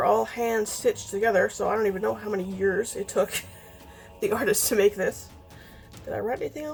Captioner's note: laughs